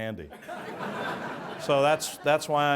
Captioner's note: audience laughs